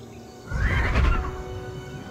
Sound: creature bellows

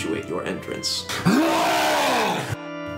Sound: long wookie roar

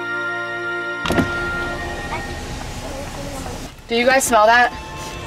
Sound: windows rolling up

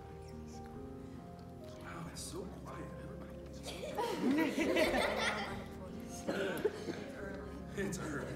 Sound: laugher

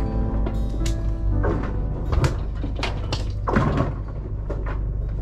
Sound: clapping

